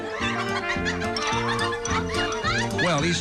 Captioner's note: clucking